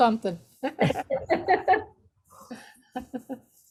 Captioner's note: all laughing